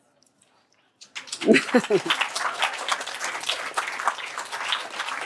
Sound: applause

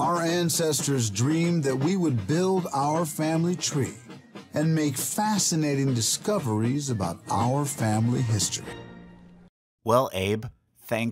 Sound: president talking

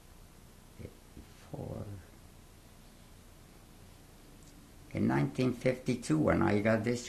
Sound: pauses for 3 seconds

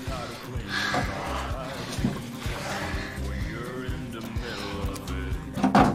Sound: they both pant

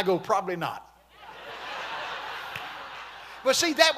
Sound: congregation laughing

